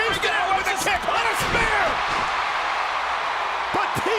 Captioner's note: audience cheering